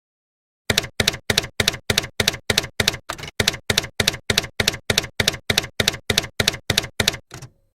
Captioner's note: typewriter keys clacking